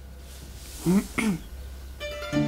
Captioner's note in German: Räuspern